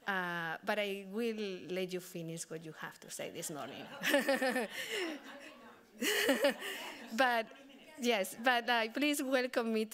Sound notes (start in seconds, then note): 4.1 everyone laughing